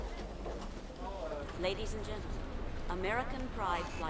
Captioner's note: woman On P.A